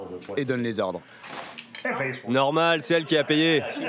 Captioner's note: laughs